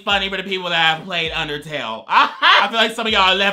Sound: laughs

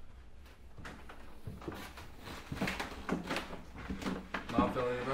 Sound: footsteps on floor

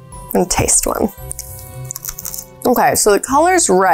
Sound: bean crunching

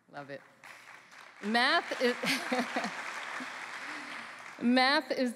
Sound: applause

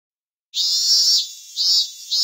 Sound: chirping of cicadsas

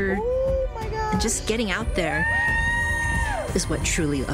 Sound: all cheering

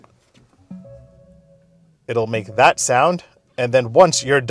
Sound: start up chime

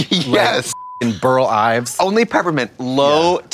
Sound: beep

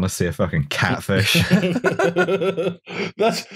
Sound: laughter

